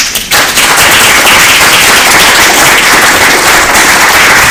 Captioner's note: applause